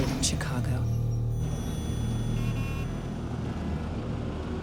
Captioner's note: horns honking